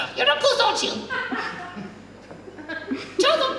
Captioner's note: audience Laughs